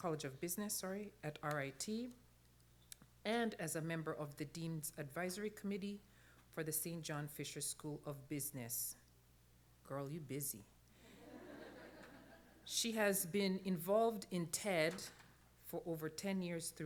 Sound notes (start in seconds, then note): 11.1 laughter